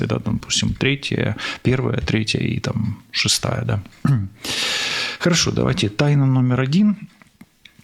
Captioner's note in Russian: откашливается